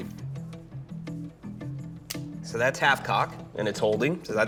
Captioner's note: click